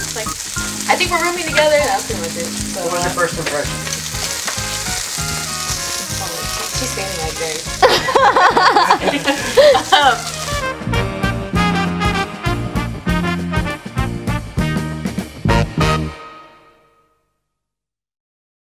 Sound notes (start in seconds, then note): 1.8 sizzling; 7.8 laughter